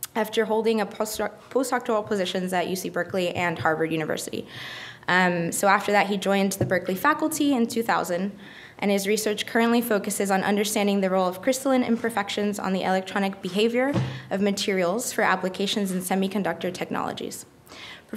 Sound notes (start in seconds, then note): none